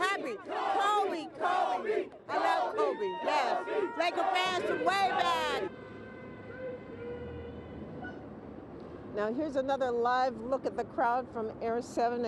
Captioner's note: crowd chanting "kobe"